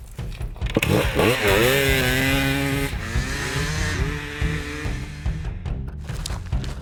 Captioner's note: dramatic music; bikes whirring